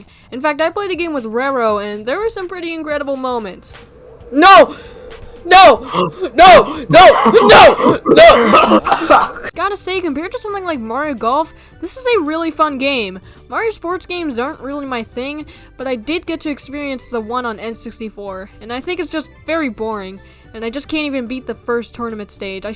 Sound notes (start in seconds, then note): 5.4 coughing laugh